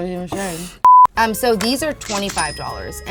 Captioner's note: beep; cash sound